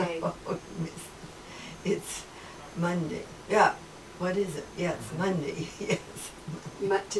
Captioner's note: chuckles